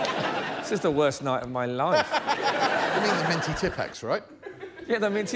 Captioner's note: laughter